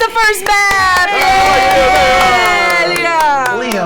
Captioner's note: cheering